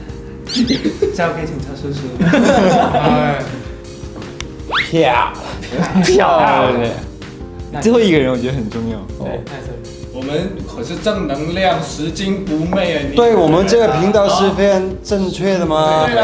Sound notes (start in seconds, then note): 2.8 sigh